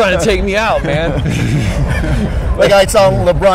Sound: laughs

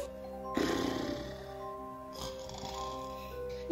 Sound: snoring

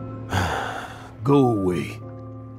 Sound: sigh

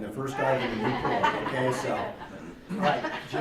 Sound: laughing

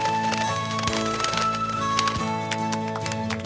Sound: wings flapping; flute music; clapping

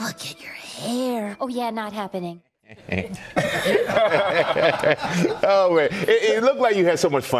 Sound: laughter

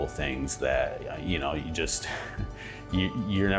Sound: laughing

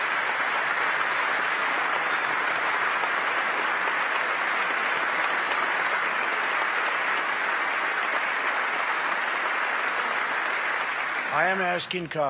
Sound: applause

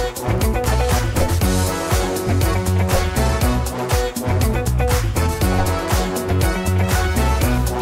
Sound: devices woosh

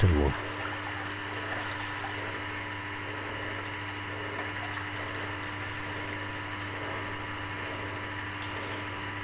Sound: water flowing sounds

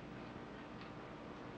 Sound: none

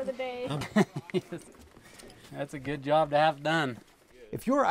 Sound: laughs

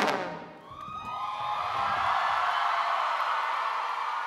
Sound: cheering

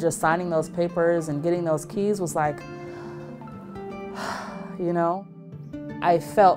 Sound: sighs

